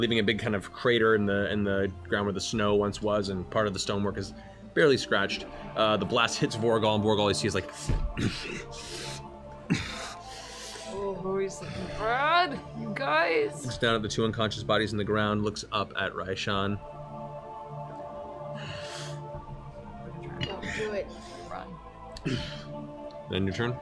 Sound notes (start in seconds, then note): 9.7 grunts; 18.8 huffs